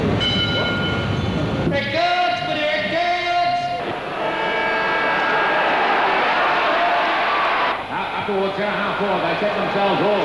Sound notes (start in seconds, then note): 0.1 tram bell; 4.3 footy siren; 6.2 crowd cheers